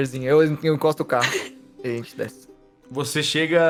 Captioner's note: chuckles